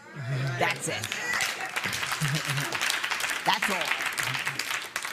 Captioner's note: applause